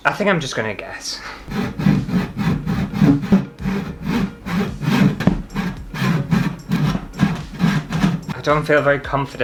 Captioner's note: sawing Sounds